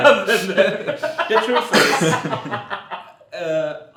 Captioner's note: laughs